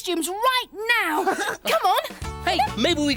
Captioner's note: Iver laughs